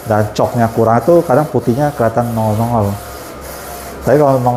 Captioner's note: printer machine noise